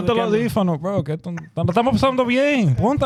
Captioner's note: speaking In Foreign Language